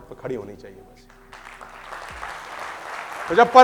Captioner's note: clapping